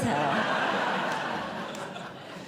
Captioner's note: audience Laughing